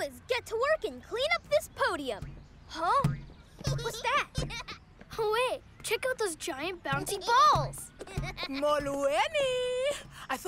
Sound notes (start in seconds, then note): 3.7 giggling